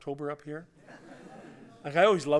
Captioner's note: laughter